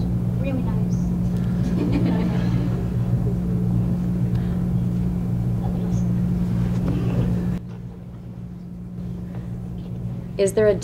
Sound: laughter

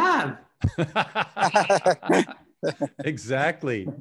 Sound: laughing out loud

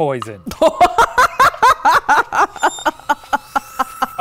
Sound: laughing

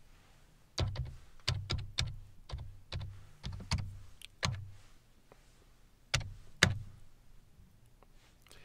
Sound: keyboard typing

